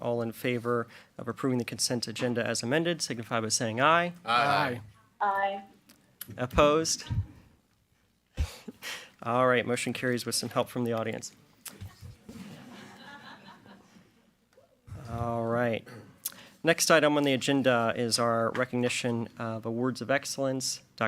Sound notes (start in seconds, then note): 12.4 audience laughing